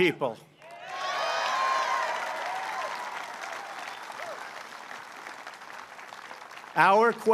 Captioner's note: applause